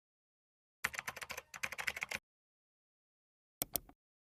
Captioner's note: keyboard clanking